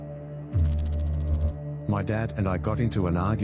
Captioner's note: electrical noise